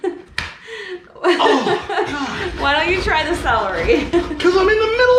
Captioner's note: exclaiming